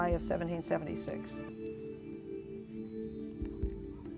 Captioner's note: whispering